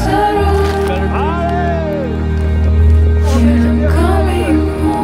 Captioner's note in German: Teamkollegen jubeln